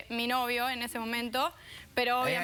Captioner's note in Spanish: exclamación